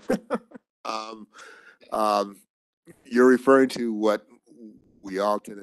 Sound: chuckles

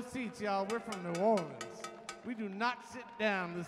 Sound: cowbell clanking

